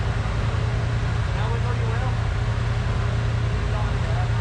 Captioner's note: crowd chattering